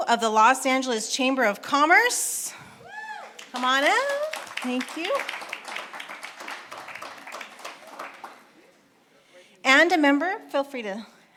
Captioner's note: applause